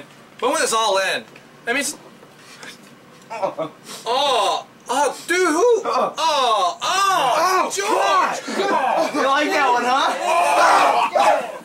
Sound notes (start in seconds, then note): 3.3 man chuckling; 10.6 everyone grumbling